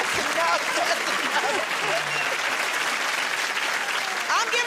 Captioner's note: applause